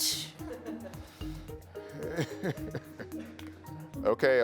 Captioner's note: all laughing